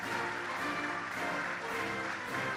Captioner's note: cheering and applause